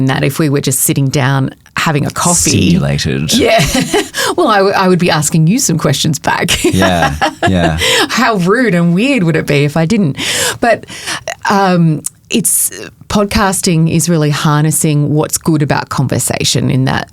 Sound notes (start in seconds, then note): 3.2 chuckles; 6.5 chuckling